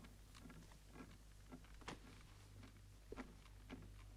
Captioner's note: cradle rocking